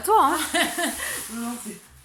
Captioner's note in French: rires